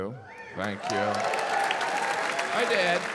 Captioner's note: audience applauding